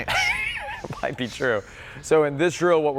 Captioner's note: laughs